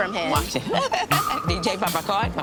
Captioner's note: laughing